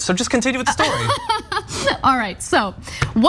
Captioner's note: laugh